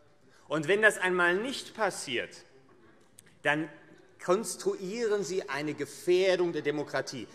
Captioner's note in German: none